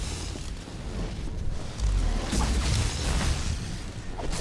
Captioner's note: gunshots